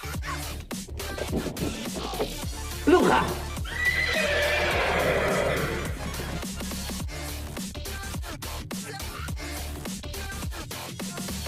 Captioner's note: snickers